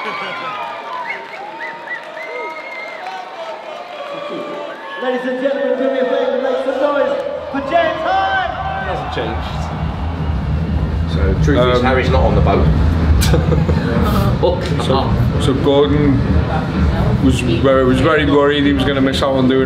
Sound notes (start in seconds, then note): 0.0 laughs; 2.4 crowd chanting